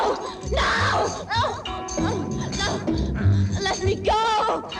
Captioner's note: whimpering